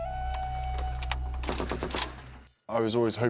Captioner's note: gun fires